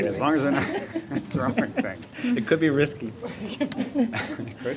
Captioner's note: collective chatter